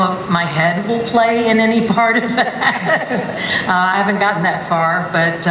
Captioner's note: laughs